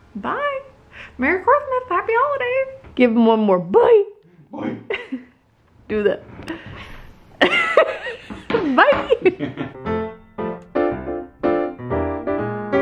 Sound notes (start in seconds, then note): 7.4 laughing; 8.5 festive music